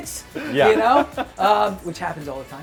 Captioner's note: laughter